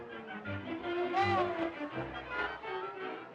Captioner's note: people chattering; yells